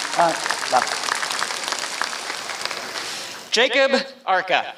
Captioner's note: applause